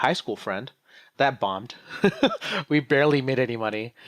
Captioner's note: laughs